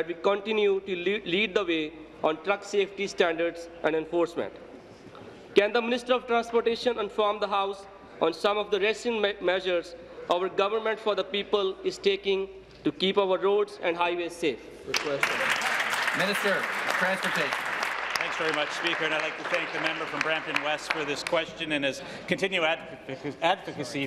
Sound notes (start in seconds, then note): 17.6 applause